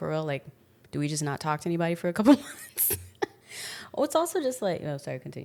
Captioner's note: laughs